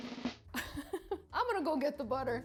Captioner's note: drum roll; chuckles